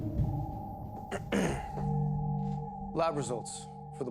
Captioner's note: Bailey clears Throat